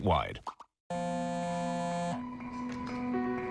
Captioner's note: cell phone vibrates